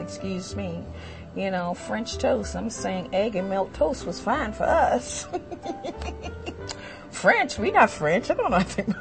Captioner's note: laughter